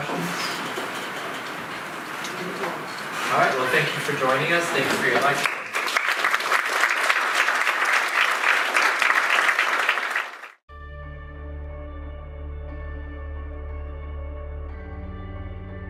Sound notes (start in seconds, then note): 4.9 audience applauds